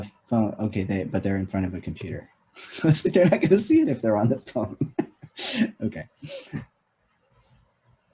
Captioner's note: laughs